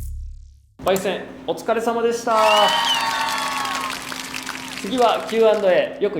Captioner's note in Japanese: 拍手